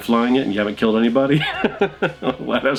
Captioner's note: laughs